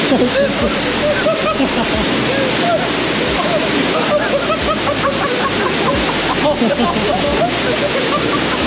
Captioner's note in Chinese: 此人已笑翻